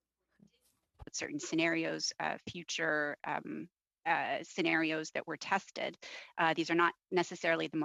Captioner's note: speaking french